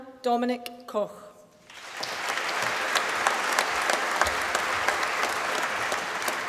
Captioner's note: applause